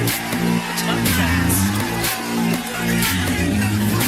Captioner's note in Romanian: Aplauze